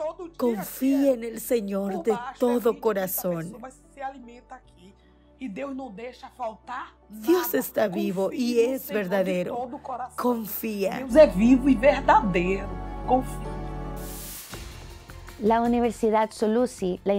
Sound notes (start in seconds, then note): 4.0 Hablando otro idioma; 11.5 Hablando otro idioma y música